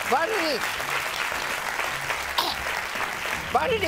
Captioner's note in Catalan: aplaudiments